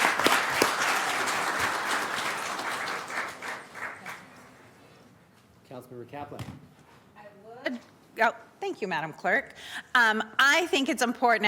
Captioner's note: applauding